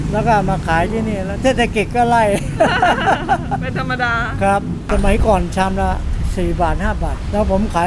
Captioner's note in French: rires